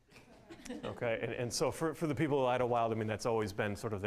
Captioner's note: audience laughing